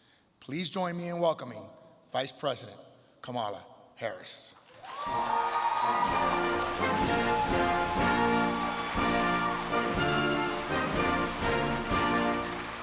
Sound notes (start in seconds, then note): 4.7 crowd cheering and clapping; 5.8 bright upbeat music